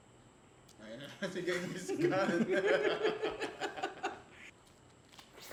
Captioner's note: laughs